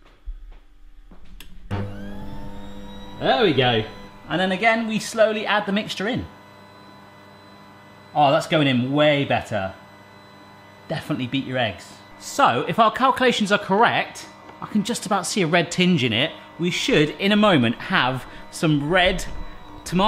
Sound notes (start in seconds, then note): 1.4 machine whirring